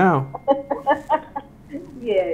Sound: laughing

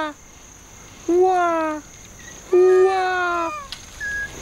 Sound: mimicking lemur calls

